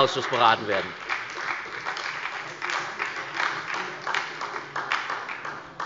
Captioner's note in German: Beifall bei der SPD